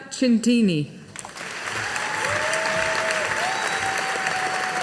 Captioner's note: audience applauding